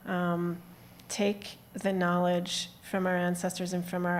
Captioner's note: none